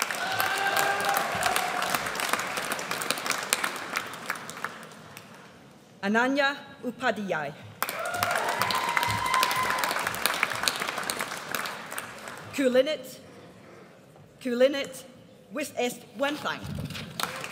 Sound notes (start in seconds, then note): 0.0 audience applauds; 7.8 audience cheers